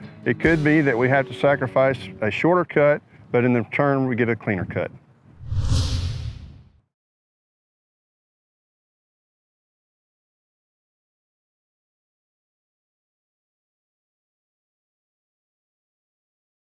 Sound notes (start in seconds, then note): 5.4 whooshing